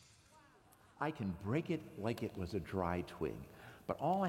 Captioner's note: snap